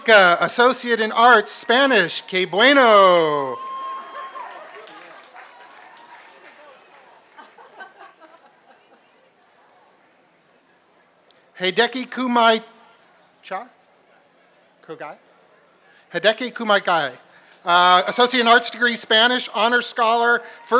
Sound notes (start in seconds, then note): 3.6 applause